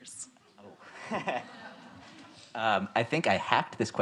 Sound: all laugh

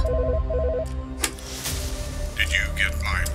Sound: phone ringing

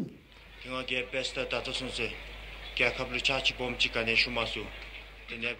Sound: speaking in foreign language

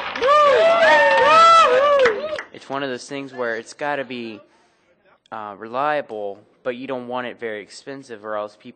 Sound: cheers

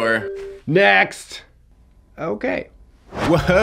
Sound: hat rustling; air whooshing

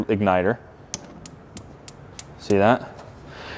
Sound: fire flickering

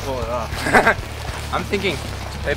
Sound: laughs

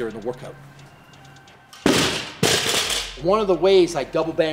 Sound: weight slamming

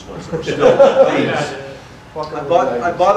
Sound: audience laughter

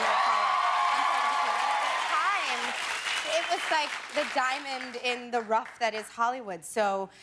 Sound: cheers and applause

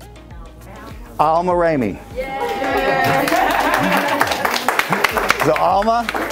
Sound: group cheering

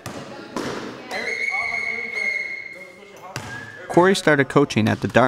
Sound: whistle blowing

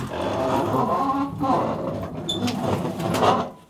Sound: squeaking

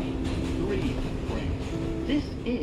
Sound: subway sounds

